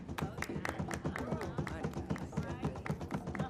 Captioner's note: clapping